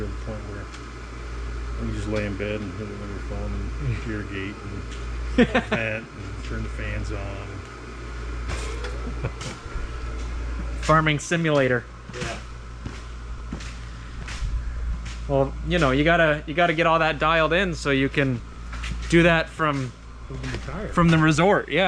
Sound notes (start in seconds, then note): 8.5 farmer laughs